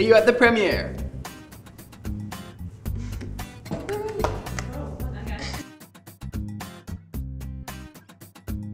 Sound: claps

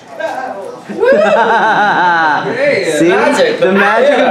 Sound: laughs

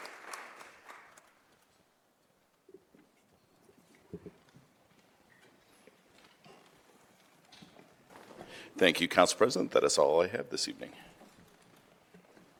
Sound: applause

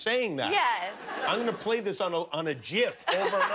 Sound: laughter

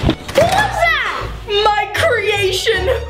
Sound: footsteps clomping; door creaking

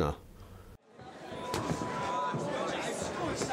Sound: crowd talking

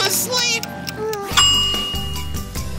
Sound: ding

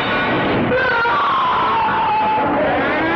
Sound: screams; mill siren blares

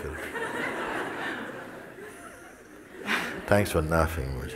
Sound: smijeh

